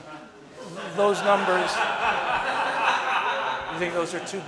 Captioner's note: audience laughing